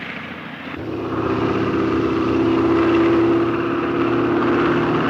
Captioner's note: airplanes buzzing